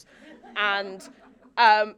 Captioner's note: audience laughing